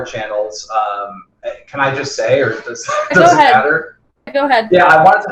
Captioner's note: laughs